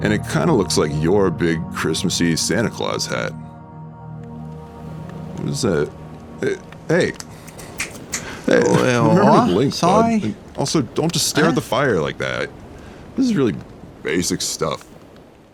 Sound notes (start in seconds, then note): 7.2 snaps fingers